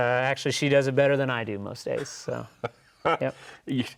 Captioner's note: laughs